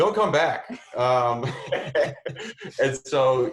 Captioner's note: laughs